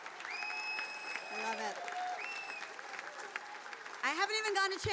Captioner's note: attendees cheering; attendee whistling